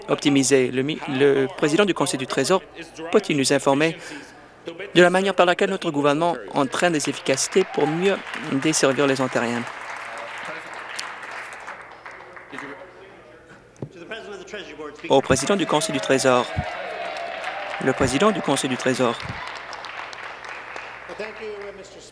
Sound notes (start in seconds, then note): 9.5 applause